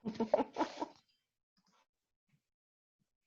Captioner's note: laughs